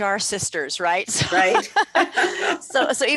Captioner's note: laughing